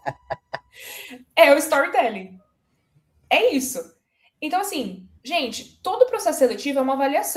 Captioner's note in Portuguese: risadas; suspirando